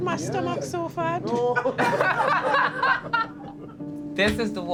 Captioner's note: all laughing